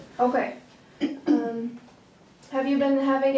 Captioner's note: clearing throat